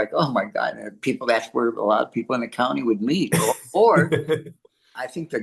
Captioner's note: laughs